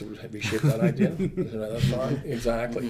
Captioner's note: laughs